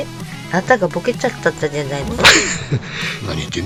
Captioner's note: laughs